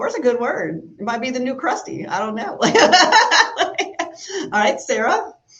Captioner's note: laughs